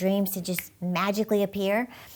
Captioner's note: finger flicks